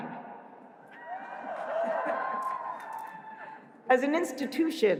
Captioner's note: cheering